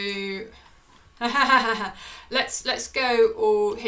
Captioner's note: laughs